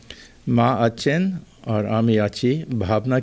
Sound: non-english speech

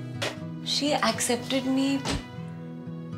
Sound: drawer closes

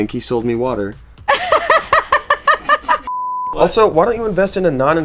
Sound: laughing

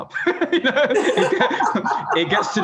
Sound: both laugh

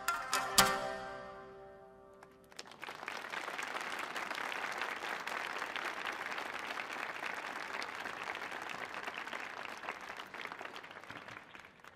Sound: applause

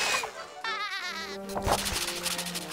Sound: laughing

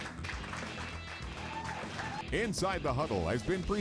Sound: applause and cheers

